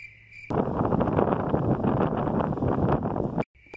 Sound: wind blows

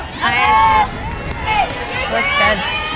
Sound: crowd cheering

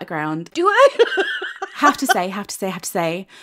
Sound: laughs

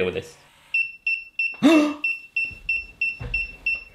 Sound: beeping

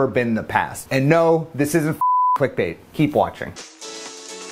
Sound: beep

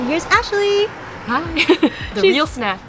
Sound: laughs

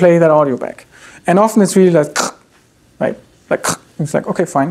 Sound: imitates video scratching

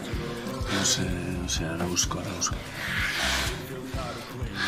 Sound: moans; they both pant

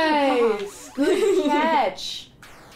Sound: laughter

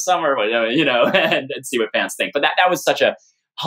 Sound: laughter

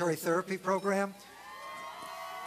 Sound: cheering

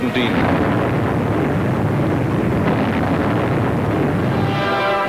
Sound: explosions booming

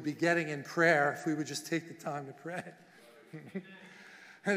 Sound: soft laughing

